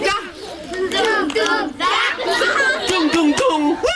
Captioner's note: laughter